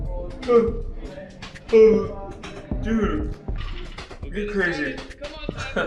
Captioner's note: yawning